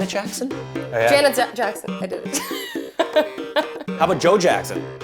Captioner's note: laughs